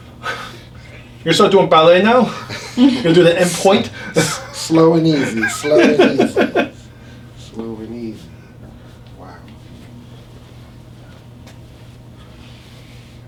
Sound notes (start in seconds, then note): 2.1 patient laughs